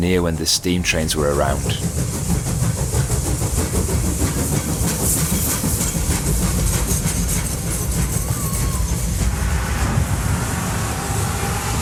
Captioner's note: sound of a Steam Train